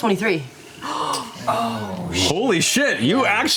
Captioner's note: gasping